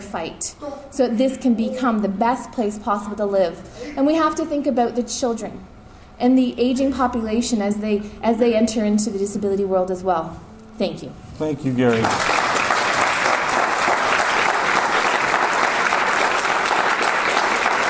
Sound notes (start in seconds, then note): 11.8 audience applause